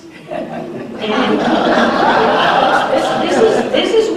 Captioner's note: laughter